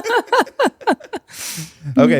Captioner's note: laughing